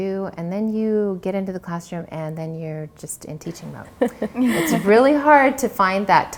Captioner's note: everyone laughs